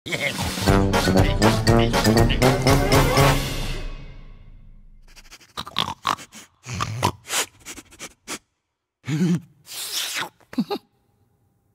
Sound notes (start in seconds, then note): 5.0 sniffs